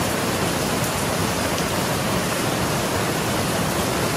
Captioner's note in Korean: 폭우